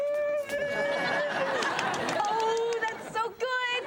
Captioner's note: audience laughs